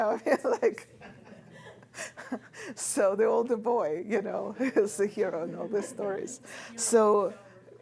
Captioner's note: laughs